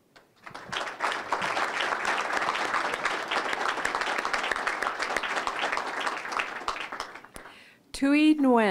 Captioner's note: applause